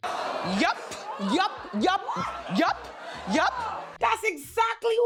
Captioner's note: audience gasps